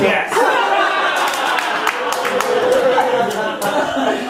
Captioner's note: audience laughing